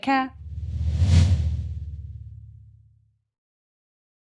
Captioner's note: air whooshes